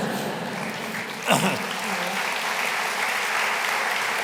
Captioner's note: applause